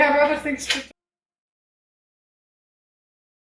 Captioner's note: click